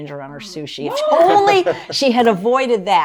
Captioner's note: laughs